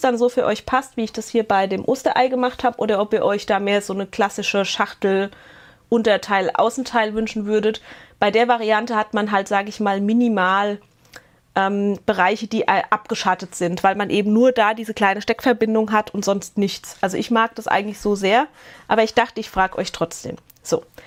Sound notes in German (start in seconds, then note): none